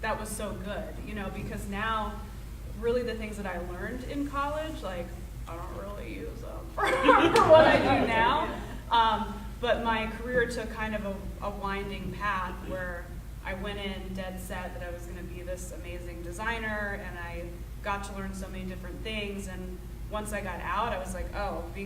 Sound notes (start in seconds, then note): 6.8 audience laughing